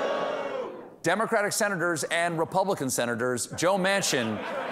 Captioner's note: booing